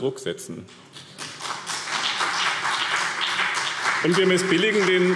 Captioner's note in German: Beifall BÜNDNIS 90/DIE GRÜNEN und CDU